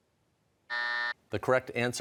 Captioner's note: buzzer sounds